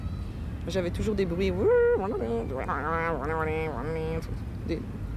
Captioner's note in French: Elle imite les sons électroniques des ondes